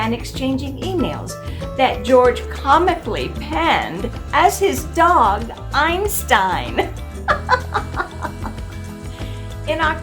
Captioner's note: laughing